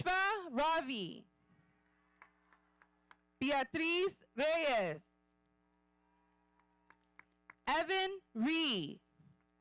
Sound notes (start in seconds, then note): 2.4 audience applauding; 6.5 audience applauding